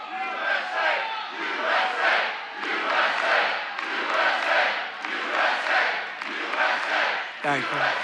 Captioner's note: audience chants "USA"